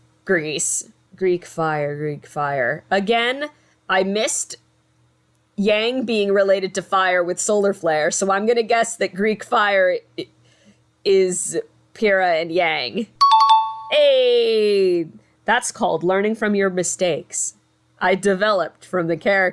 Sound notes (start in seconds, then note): 13.2 success ding